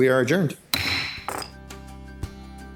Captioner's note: gavel thuds; gentle upbeat music